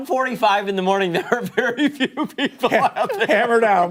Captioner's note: laughter